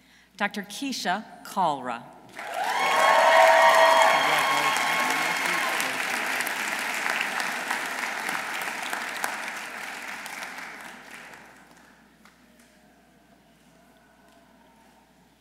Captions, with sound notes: Dr. Kisha Kalra. -(audience cheering) -(audience applauding)